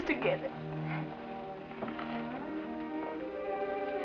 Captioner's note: none